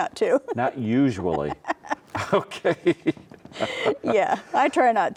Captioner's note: laughs